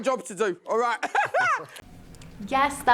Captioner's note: laughs